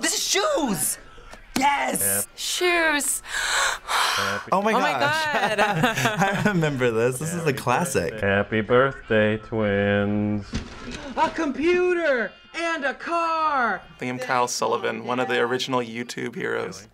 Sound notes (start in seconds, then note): 3.2 gasps emotionally; 5.2 both chuckle